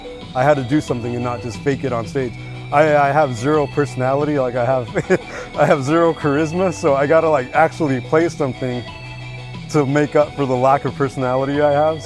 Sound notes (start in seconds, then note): 4.2 laughs